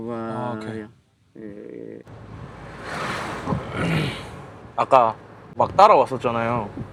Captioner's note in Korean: 목을 가다듬음